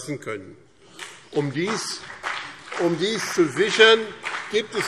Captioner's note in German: Beifall